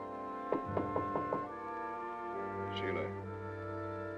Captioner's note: door knocking